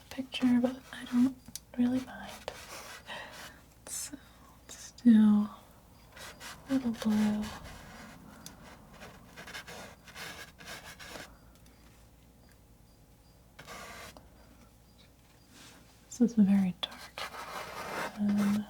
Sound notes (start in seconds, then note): 9.4 scratching sounds